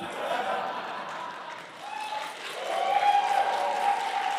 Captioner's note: applause